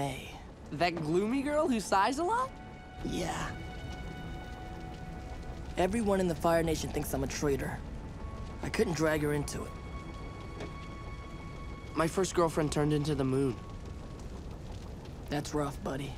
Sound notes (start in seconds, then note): none